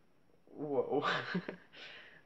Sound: laughs

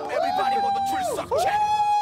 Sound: wooooooh

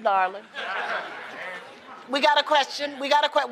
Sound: laughter

